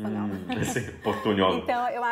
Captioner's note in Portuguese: risos